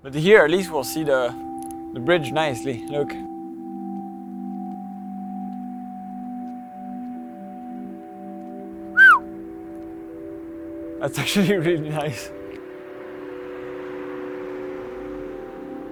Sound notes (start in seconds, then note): 3.8 calm music; 8.9 whistles; 13.4 calm music